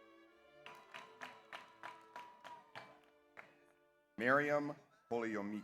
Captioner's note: audience applauds; audience cheers